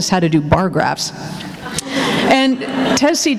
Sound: laughter

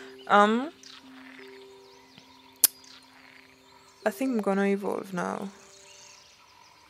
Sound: clicks tongue

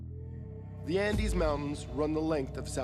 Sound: voiceover

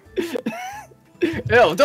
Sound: laughing

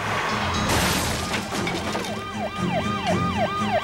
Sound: crash

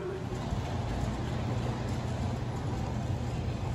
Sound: wheels rumbling on tracks

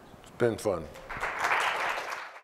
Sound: applause

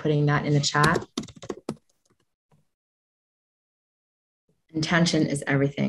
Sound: keyboard typing

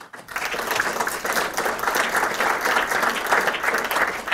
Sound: audience applauding

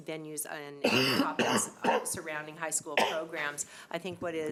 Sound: coughing

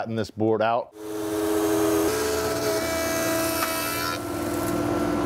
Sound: machine buzzing

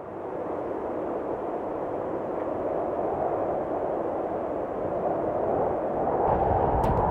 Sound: wind gusting

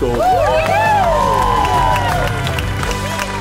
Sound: applause

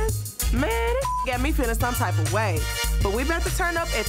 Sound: beep

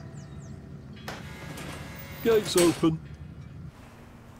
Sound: buzzer

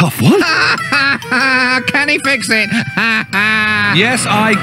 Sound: laughing

